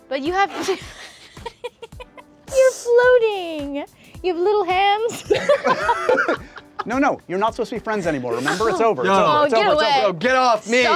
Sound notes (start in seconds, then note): 0.5 laughs; 5.1 all laughing